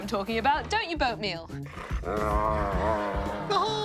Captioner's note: dog noises